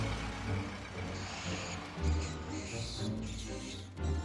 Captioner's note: squeaking